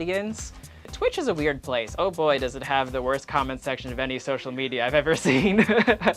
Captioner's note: laughs